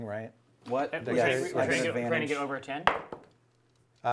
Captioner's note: chattering